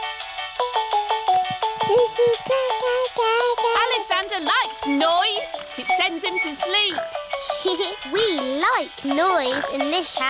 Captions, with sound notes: (MOBILE PLAYING LOUD MUSIC) (COOING) Alexander likes noise! -It sends him to sleep. -(GIGGLES) We like noise in this house.